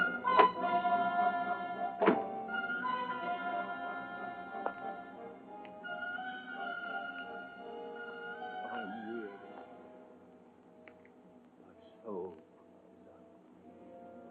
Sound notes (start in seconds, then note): 8.7 Baron speaking, muffled